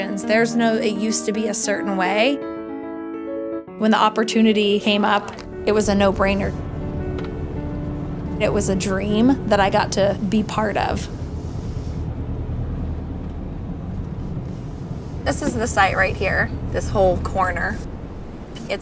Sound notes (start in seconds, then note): 11.8 car driving